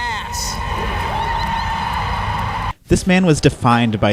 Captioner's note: crowd cheers